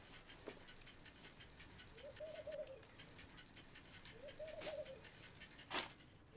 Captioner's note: bicycle chain clicking